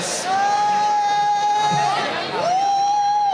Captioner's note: cheering